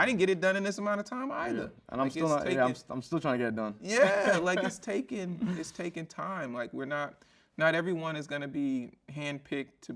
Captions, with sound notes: like I didn't get it done in this amount of time either. - Yeah. I'm still trying to get it done. (chuckles) - Yeah. (chuckles) Like, it's taking time. Like, we're not, not everyone is gonna be handpicked